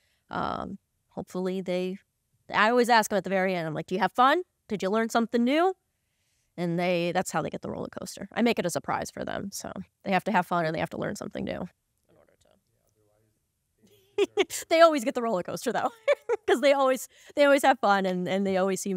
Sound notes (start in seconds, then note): 15.7 laughing; 15.8 laughs